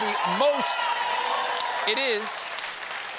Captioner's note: applause